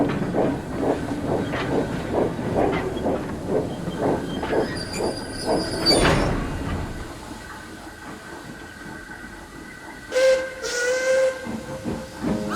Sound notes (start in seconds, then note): 10.1 Donald's whistle echoes